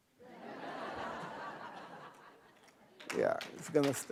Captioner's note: laughing